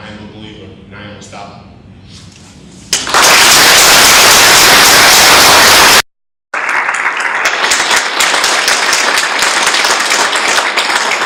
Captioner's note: audience clapping